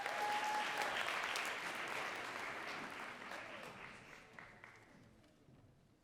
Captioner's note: audience cheering and clapping